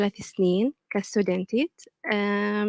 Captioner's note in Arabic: لغة أجنبية